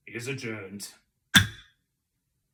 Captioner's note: gavel